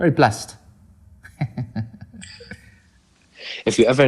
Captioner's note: laughing